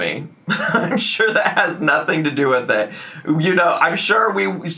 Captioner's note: chuckles